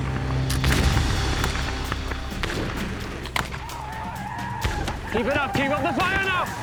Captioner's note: gunshots, shouting